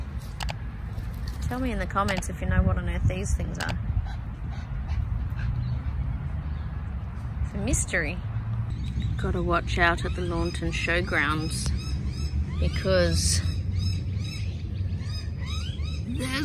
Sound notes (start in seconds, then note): 4.0 Ollie pants in background; 8.9 dramatic anticipation voice